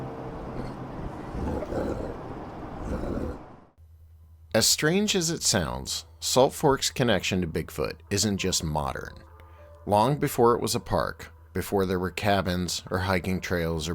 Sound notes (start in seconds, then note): 1.0 creature grunting